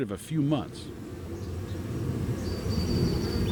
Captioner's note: bees buzzing